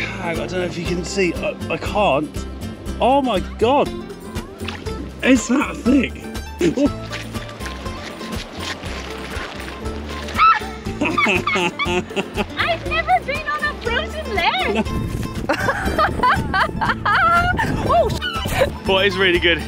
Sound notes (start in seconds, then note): 10.4 laughing; 15.4 laughing